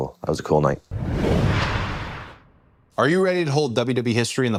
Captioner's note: logo whooshing